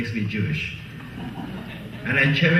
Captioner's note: laughing